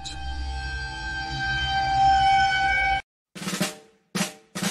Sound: eerie Sound

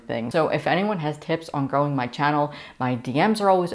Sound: none

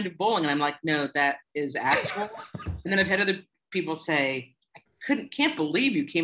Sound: laughter

